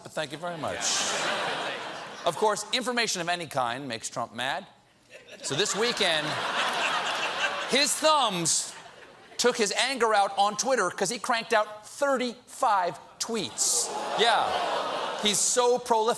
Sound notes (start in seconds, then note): 0.5 audience reacts; 13.4 audience reacts